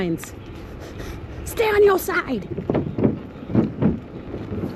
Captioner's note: laughing